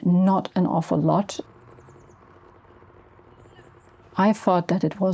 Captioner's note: faint motor noises